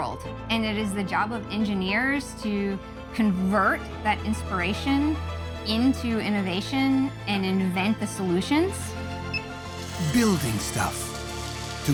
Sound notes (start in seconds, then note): 6.8 machine beeps